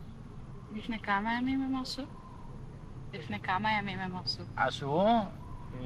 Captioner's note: speaking foreign language